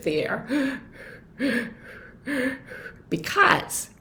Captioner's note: breathes shallowly